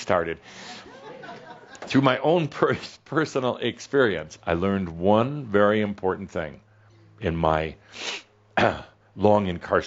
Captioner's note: a few chuckles